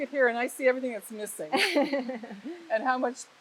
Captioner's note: laughing